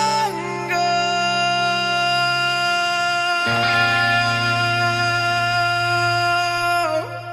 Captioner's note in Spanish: grito